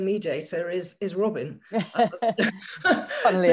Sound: participants laughing

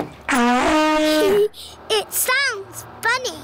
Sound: giggles

